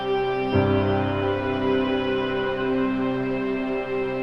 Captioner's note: air whooshing